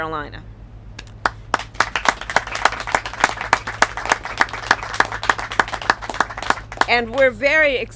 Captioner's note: applause